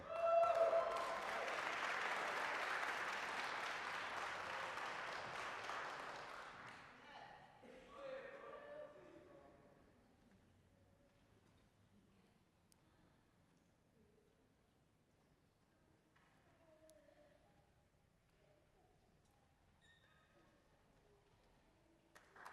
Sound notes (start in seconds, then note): 0.0 applause, cheering; 3.8 applause